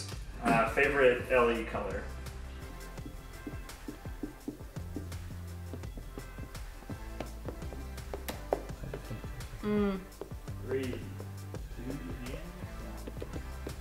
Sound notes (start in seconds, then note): 4.9 tapping sounds